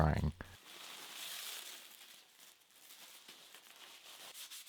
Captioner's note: plastic rustles